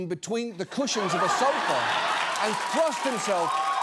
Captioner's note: studio audience laughing, applauding